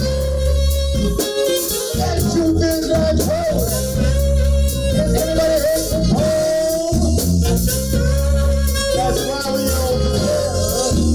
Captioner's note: horn